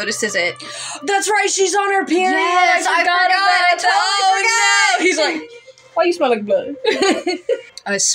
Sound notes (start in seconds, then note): 0.6 gasp; 6.8 laugh